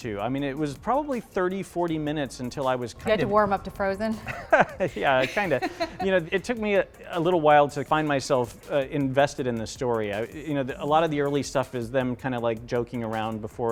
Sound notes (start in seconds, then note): 4.2 laughs